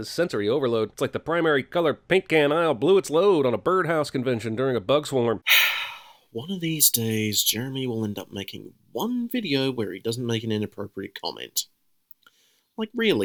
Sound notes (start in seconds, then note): 5.4 sigh